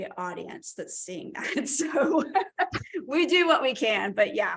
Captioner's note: laughter